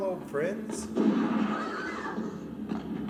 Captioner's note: shotgun fires